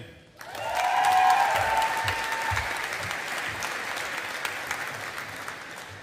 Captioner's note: audience applauding